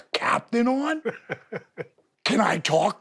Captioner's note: Steve laughs